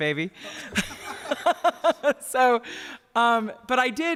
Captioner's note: laughter